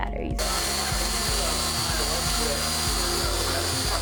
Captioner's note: drill whines